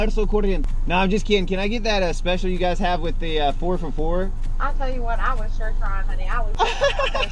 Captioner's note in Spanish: conversación en inglés; risas